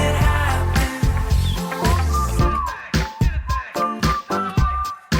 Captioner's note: singer whistling